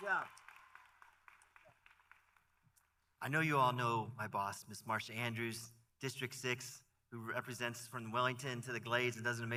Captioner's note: applause